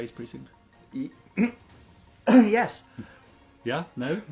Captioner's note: clears throat